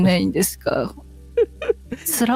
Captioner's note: laughter